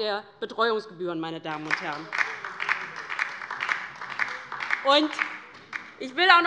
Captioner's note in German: Beifall bei der LINKEN